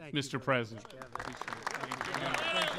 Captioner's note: applause